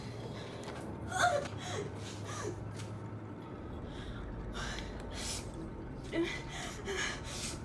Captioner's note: Heather grunting; Heather panting